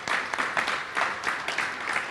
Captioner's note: applause